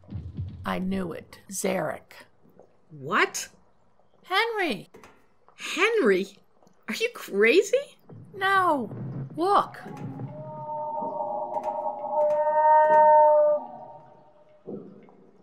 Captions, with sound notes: I knew it, Zarek! What?! Henry! Henry?! Are you crazy? No, look! [Sea creature cry]